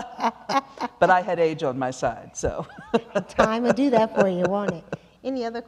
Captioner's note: laughter